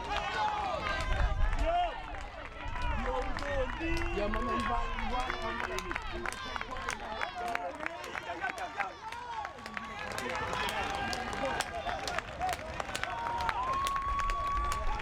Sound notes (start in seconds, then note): 1.7 players yelling